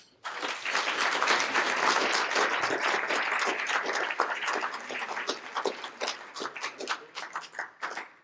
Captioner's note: applause